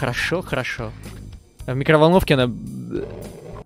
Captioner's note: vomits